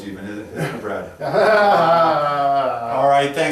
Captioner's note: sarcastic laugh